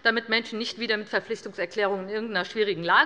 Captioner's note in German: none